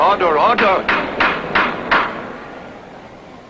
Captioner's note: gavel pounding